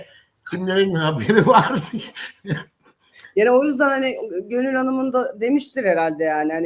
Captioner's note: kahkaha